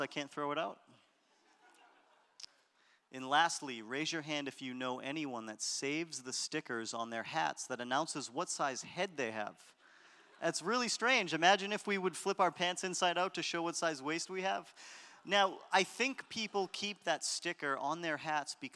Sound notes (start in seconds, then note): 1.5 audience laughter